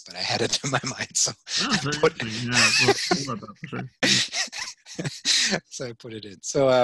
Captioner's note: laughing